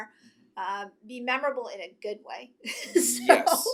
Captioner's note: laughs